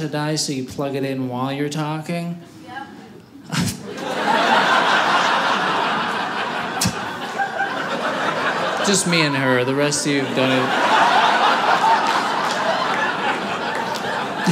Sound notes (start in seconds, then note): 3.4 audience laughing; 10.8 audience laughing